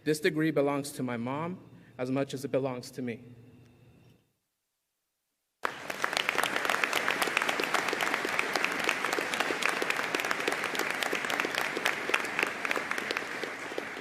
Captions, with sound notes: This degree belongs to my mom as much as it belongs to me. (audience applauding)